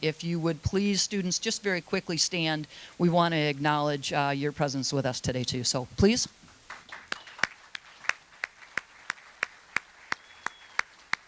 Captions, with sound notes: If you would please, students, just very quickly stand. We wanna acknowledge your presence with us today, too. So, please. (attendees applauding)